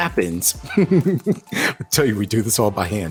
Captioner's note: chuckles